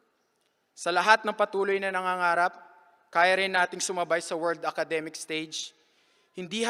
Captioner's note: speaking filipino